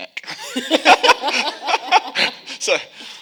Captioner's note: audience and panelists laughing